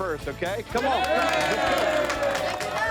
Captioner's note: cheering